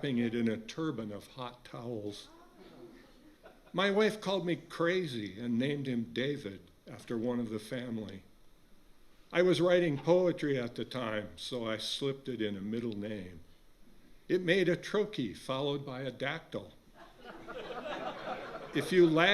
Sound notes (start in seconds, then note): 17.0 laughter from audience